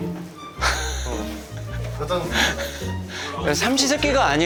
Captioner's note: chuckles